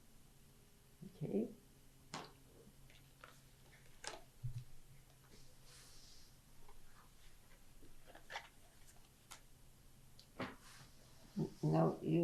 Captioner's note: pauses for 10 seconds